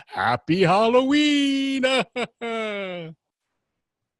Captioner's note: laughs